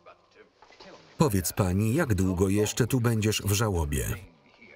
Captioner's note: none